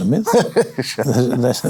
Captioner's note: laughing